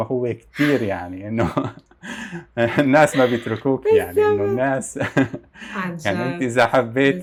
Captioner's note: laughs